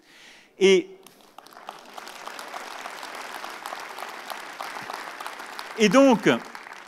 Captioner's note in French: Applaudissements